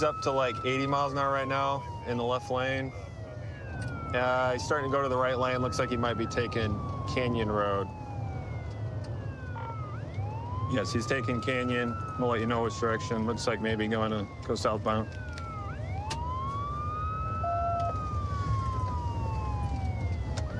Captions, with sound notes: He's up to like, 80 miles an hour right now in the left lane. He's starting to go to the right lane, looks like he might be taking Canyon Road. Yes, he's taking Canyon. We'll let you know which direction. Looks like maybe going to go southbound. [sirens wailing]